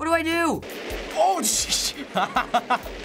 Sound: laughs

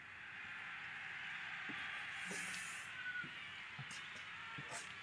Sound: indistinct cheering

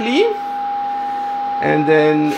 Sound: 440 Hertz tone can be heard

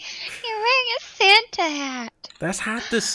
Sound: laughing

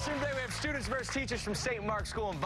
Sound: cheers and applause

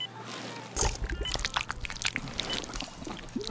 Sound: squelching

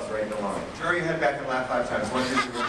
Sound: all laugh

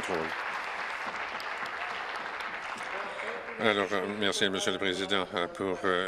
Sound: applause

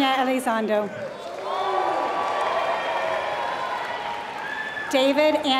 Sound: applause

